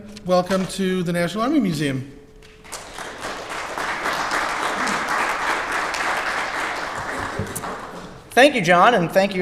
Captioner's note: crowd applause